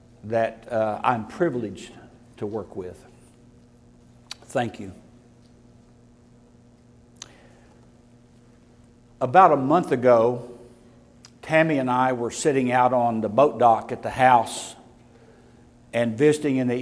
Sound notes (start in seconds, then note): none